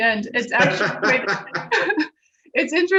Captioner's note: laughing